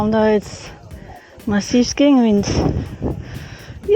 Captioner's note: wind